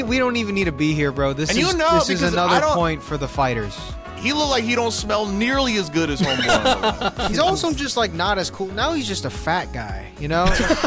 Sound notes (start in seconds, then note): 6.2 laughing